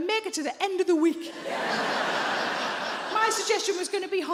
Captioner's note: audience laughs